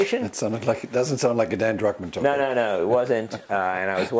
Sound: laugh

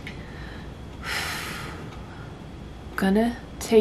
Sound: relieved exhale

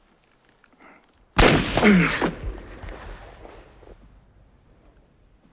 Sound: gunshot booms

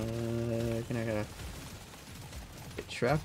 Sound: speaking hard-back

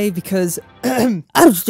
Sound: le clearing of throat

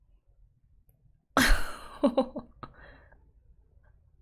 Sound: laughs

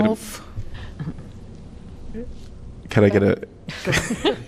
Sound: laughter

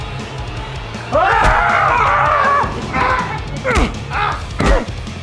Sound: Tobi screaming; hammer hitting suit

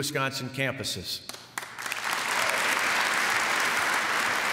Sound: applause

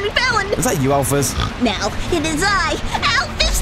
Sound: snort

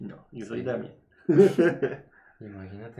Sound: laughs

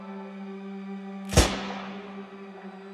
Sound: gunshot; suspenseful music

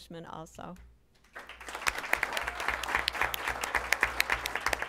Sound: applause

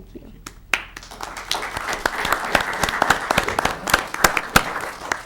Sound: audience clapping

